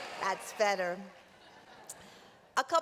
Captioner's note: laughter